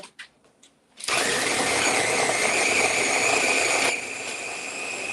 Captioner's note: blender whirling